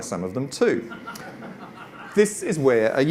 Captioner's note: audience laughs